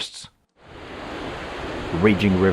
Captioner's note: water rushing